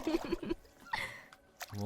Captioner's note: chuckles